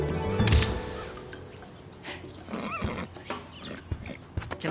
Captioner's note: camera shuttering